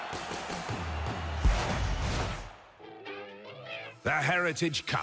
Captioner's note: cheers